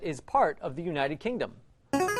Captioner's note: buzzer